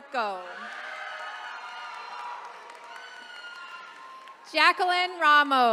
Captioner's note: attendees cheering